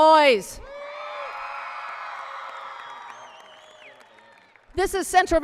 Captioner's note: applause and cheering